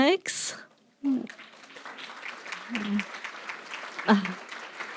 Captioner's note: applause